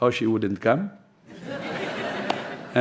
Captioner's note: laughter